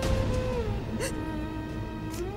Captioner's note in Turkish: ağlama sesi̇